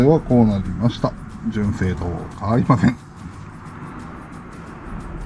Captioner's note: laugh